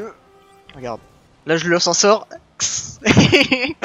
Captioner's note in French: bruitages; Rires